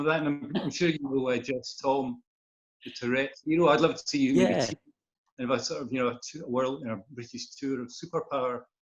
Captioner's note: laughter